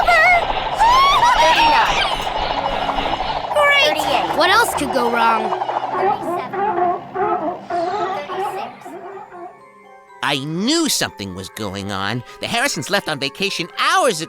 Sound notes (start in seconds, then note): 0.3 shrieking; 5.9 barking